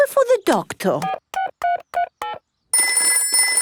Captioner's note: telephone ringing; dialing